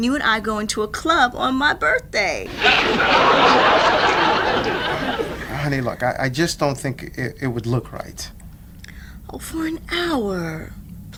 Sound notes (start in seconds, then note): 2.4 audience laughs